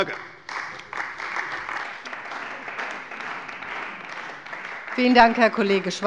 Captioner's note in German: Beifall bei der CDU